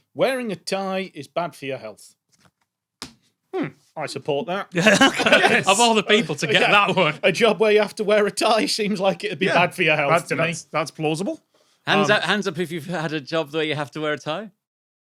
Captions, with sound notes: Wearing a tie is bad for your health. Hmm. I support that. (chuckles) Of all the people to get that one. A job where you have to wear a tie seems like it'd be bad for your health. That's plausible. Hands up if you've had a job where you have to wear a tie.